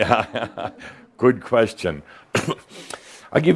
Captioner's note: Adamus chuckles